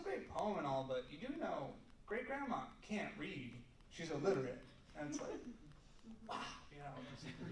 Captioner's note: laughter